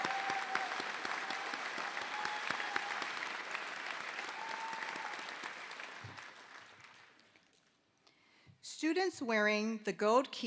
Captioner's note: applause